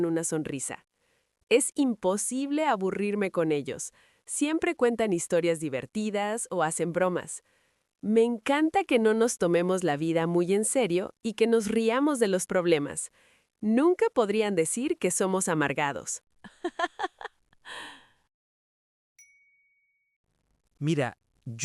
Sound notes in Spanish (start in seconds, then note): 16.4 risas